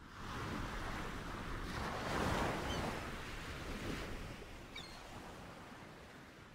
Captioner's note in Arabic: أصوات المحيط